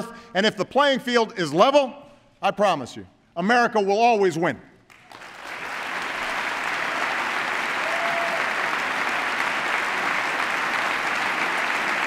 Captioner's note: applause